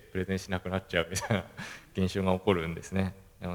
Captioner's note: laugh